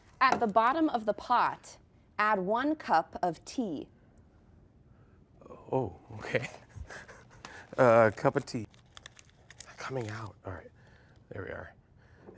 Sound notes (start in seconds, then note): 6.2 laughs